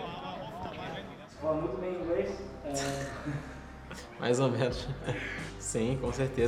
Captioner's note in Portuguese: risos